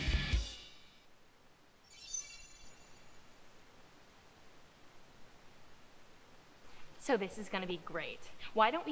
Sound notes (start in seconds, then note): 1.8 magical shimmering sound